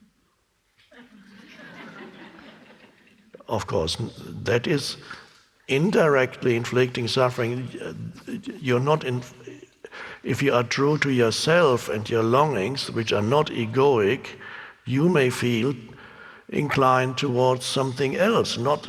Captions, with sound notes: (audience laughing) Of course, that is indirectly inflicting suffering. If you are true to yourself and your longings which are not egoic, you may feel inclined towards something else